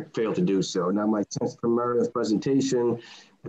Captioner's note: mic cracking